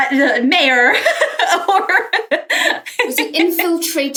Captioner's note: laughs